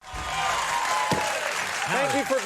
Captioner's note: audience cheering